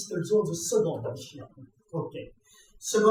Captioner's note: speaking foreign language